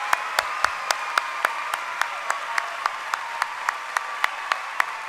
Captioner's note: cheering and applause